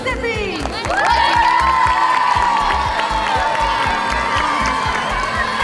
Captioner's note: cheering